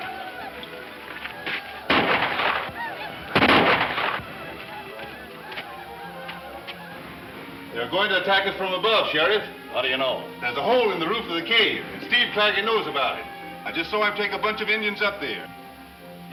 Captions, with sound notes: (more gunshots) - They are going to attack us from above sheriff. - How do you know? - There's a hole in the roof of the cave Steve Claggett knows about it. I just saw him take a bunch of Indians up there.